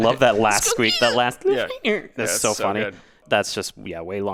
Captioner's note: mimics squeak